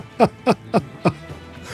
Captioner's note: laugh